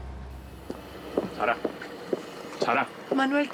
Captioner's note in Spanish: sonido de autos